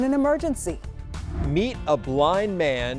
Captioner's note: air whooshing